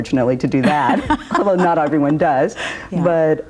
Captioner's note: laughs